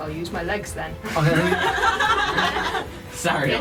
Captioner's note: laughter